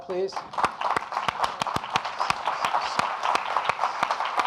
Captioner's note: audience applauding